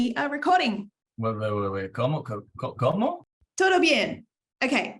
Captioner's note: speaking Spanish